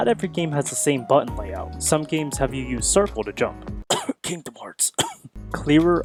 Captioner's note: coughs